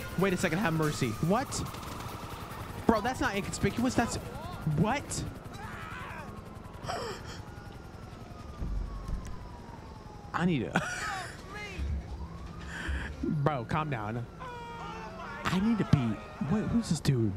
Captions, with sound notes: Wait a second, have mercy. What? Bro, that's not inconspicuous. That's-- what? [screams] I need to-- [laughs] Bro, calm down. I need to be-- wait, who's this dude?